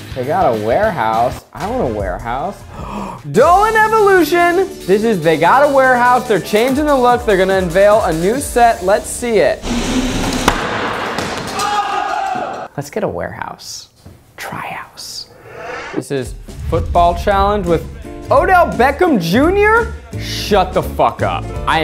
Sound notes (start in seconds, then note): 2.6 gasp; 11.8 yelling